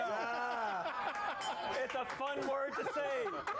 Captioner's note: bell rings